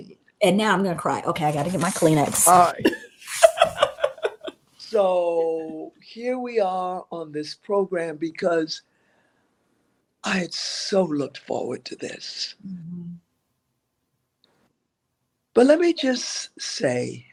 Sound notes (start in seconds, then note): 4.9 laughter